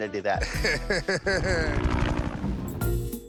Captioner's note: laughs